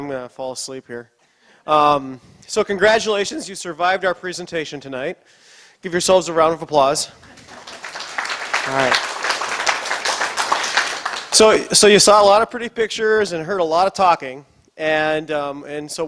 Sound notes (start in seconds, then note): 7.2 applause